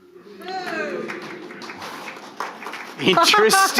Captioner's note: audience booing and clapping